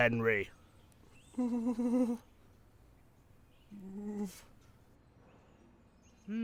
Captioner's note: henry whimpers